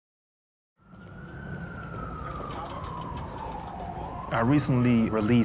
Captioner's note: siren wailing